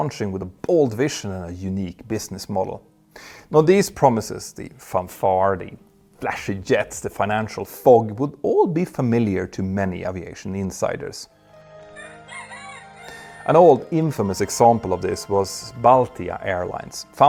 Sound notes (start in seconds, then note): 11.4 cock crowing